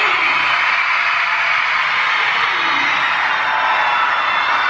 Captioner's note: audience cheering